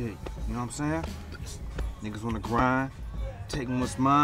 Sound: none

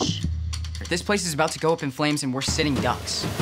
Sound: male Voice; band music

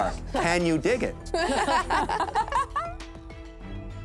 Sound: laughter

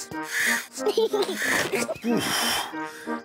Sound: giggles excitedly

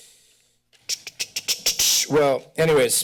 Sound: tongue clicking

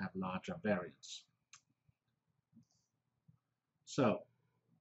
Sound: pause

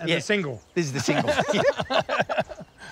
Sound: laughs

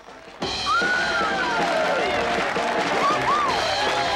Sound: crowd cheering

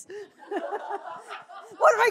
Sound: laughter

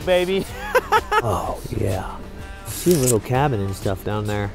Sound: laughs

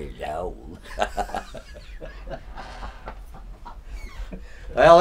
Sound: cackling

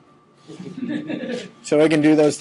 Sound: students laughing

